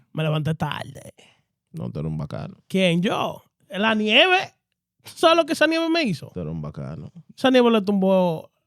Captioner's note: speaking In Foreign Language